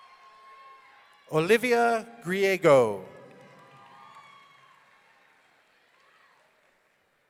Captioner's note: audience cheering